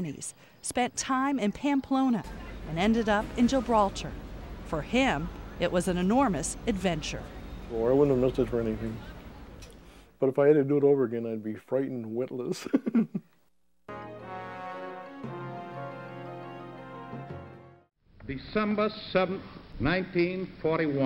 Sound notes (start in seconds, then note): 12.5 chuckling; 13.9 gentle rousing music